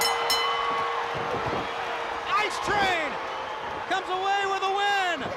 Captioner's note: bell ringing; crowd cheering